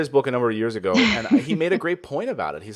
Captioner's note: laughs